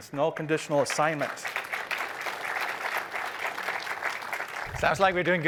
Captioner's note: applause